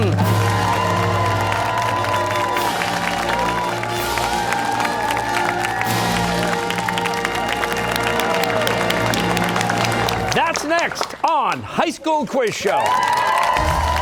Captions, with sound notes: (fanfare) (cheers and applause) That's next on High School Quiz Show!